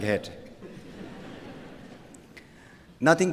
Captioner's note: laughter